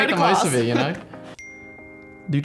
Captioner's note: ping